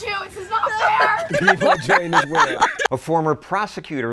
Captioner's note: laughing